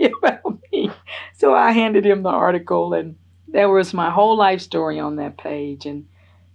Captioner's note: laughs